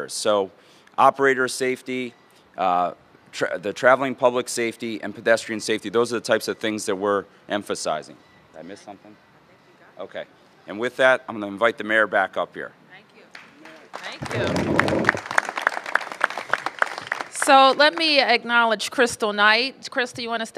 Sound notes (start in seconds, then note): 13.3 applause